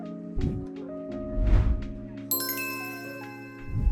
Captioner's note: air whooshing; bells chiming